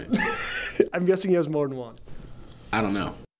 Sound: laughter

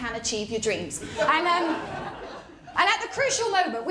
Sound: laughter

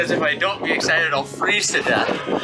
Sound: laughing

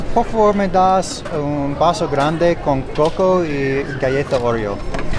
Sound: speaks Spanish

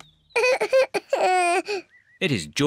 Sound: cries

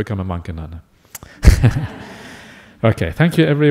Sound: laughs

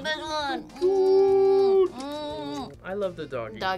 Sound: both kissing

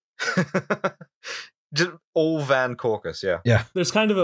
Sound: laughter

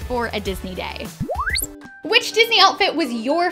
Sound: electronic beep

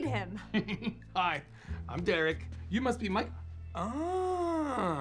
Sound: laughing

